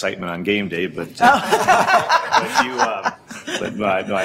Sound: laughs

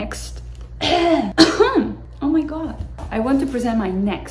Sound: cough

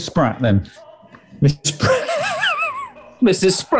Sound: sniggering

